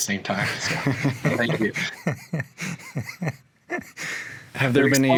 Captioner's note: all laughing